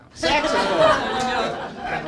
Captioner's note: laughter